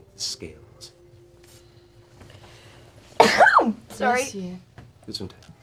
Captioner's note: sneezes